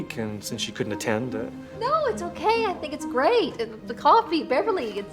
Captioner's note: none